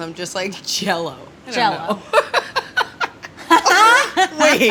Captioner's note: laughter